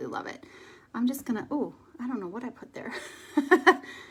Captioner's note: laughs